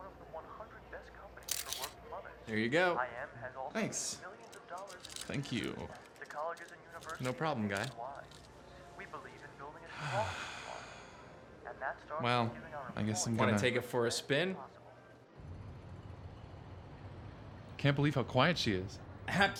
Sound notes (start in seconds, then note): 9.9 guy sighs